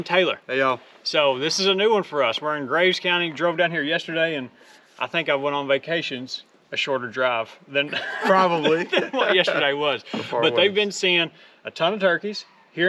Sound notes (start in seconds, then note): 7.8 all laughing